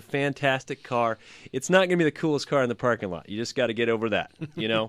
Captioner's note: laughs